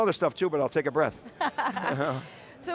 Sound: laughter

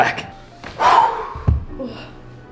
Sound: loud exhaling

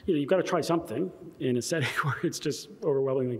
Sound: laughter

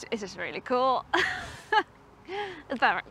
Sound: laughs

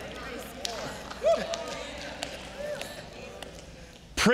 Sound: audience applauding

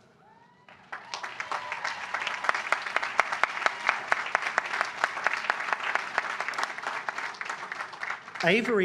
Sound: applause

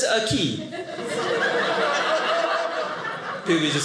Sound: audience laughing

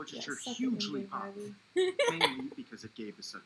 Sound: laughter

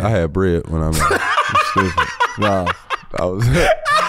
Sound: laughs

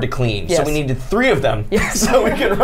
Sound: laughs

